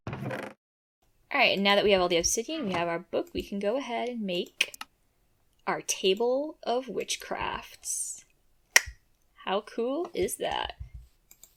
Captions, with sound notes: Alright and now that we have all the obsidian we have our book, we can go ahead and make... our table of witchcrafts. *click* How cool is that?